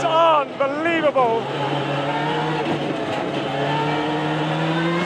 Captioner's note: engine rasping